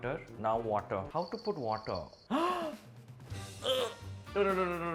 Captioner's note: gasps